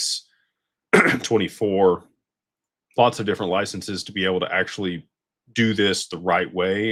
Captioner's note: clears throat